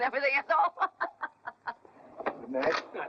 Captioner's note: laughing